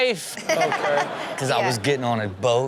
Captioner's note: laughs